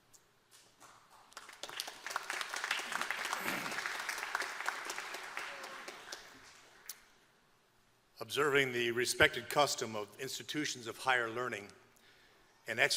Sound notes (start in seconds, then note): 1.1 applause